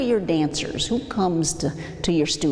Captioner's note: exhales